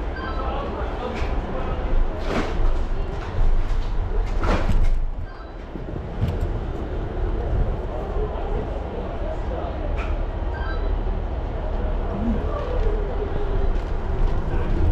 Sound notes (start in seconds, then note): 0.2 radio beeps; 8.2 crowd talks; 10.6 radio beeps